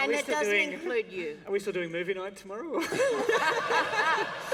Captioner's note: laughter